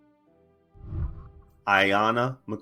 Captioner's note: whooshing